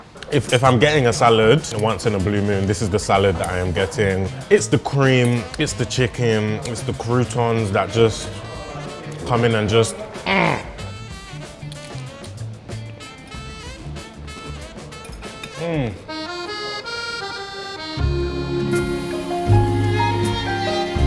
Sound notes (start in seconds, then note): 10.2 grunts; 16.9 happy Italian music